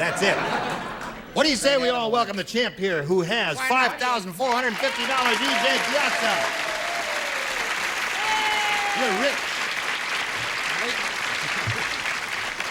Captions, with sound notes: YOU'RE A CHAMELEON. THAT'S IT. WHAT DO YOU SAY WE ALL WELCOME THE CHAMP HERE, WHO HAS $5,450, E.J. PIAZZA. [APPLAUSE] YOU'RE RICH.